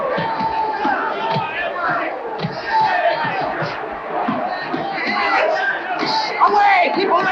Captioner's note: crowd cheering